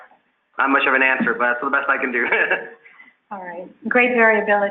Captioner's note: laughs